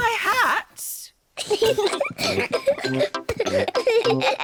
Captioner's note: peppa and george giggle